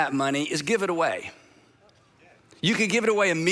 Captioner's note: congregation converse